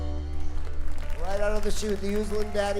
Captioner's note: audience applauding